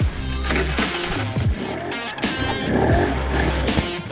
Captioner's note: engine revving